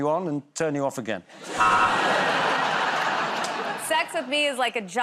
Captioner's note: laughter